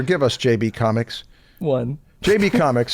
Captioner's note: chuckles